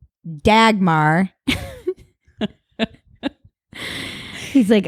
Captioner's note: both laugh